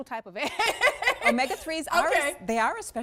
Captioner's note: laughter